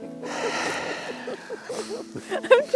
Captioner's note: laughing